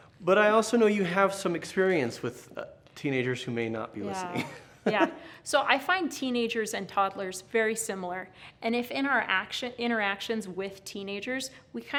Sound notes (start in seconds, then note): 4.5 laughs